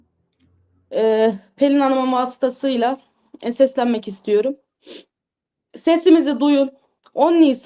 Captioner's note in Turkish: homurdanır